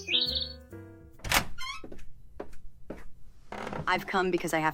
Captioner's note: birds chirping; door creaks